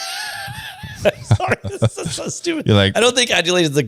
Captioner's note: laughs